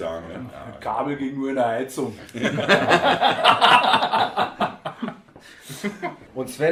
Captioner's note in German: lachen